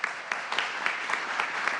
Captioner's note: applause